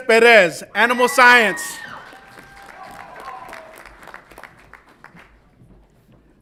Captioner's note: audience applauds and cheers